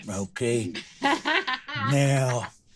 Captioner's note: laughs